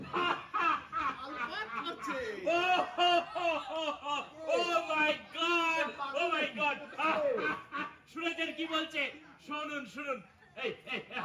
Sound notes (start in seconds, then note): 4.3 laughing maniacally